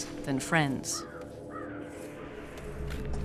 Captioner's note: cawing